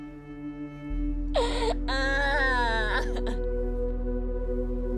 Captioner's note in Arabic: يستمر النحيب